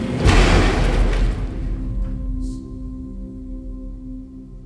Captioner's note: elevator clanks